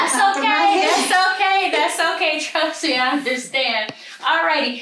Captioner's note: laughs